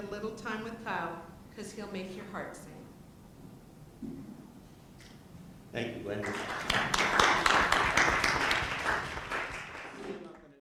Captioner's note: applause